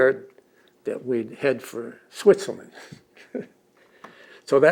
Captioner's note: laughs